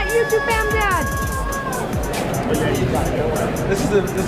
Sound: cheering

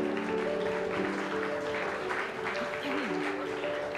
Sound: applause

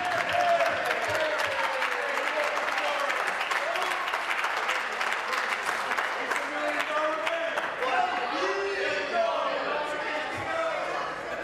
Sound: applause

